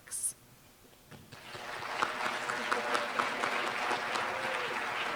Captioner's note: applause